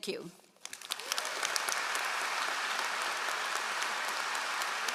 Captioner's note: all applauding